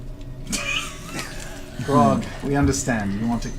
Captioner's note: all laugh